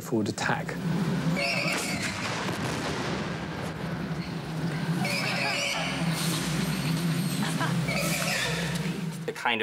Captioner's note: explosions and sound effects